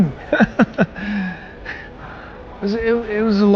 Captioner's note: laughing